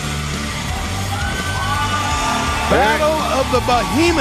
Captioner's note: crowd cheers